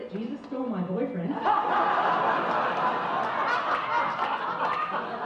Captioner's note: audience laughs